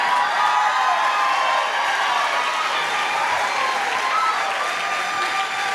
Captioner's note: applause